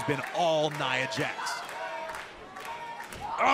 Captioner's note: crowd cheering